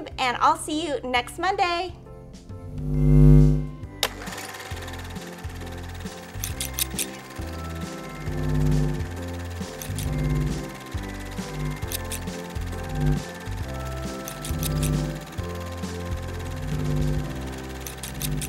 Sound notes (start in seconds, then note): 2.5 bright music; 2.5 sewing machine grinding; 6.4 scissors snipping